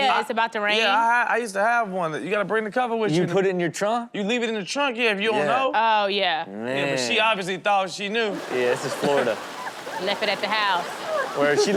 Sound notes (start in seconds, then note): 8.4 audience laughs